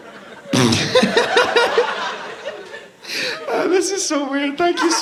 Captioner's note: laughing